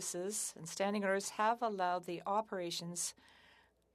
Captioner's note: speaking French